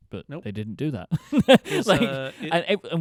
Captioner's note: laughing